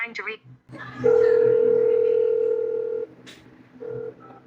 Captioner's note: phone rings seductively